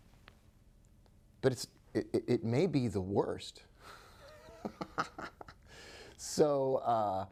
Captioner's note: chuckling